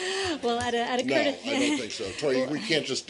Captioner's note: laughter